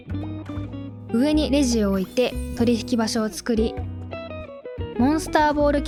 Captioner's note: cash Register